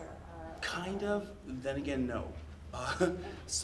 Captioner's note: laughs